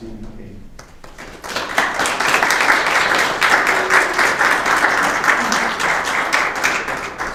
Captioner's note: applause